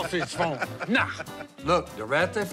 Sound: laughs

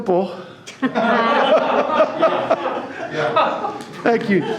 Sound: audience laughing

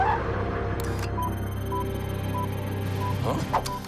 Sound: electronic beeping

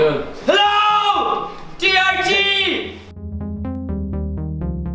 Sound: shouts

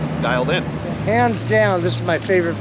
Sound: motor revving

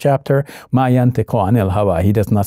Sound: Shabir speaking Arabic

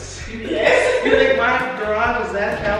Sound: laughs

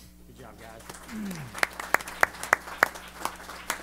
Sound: applause

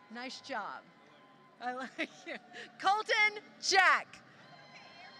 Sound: laughter

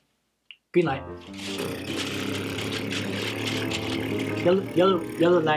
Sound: fast piano music; Mr. Root blowing raspberry; slow piano music

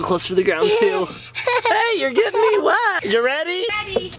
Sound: laughs

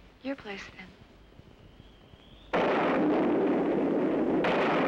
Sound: thunder cracks

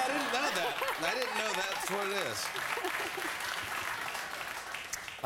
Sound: laughter; applause

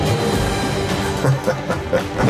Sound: laughing

